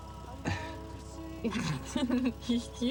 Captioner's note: laughs